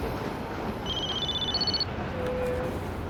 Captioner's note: phone rings